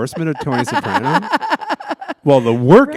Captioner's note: laughter